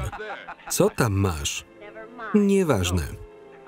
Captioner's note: laughing